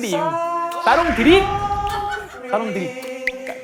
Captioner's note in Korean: 부글부글